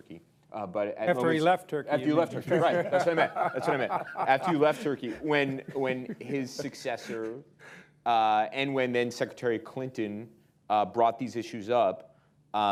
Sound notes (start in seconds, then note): 2.2 laughter